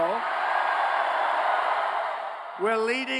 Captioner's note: cheers, applause